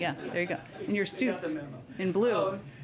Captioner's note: laughter